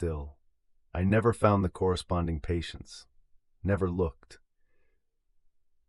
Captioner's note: exhale